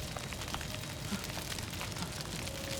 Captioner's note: moaning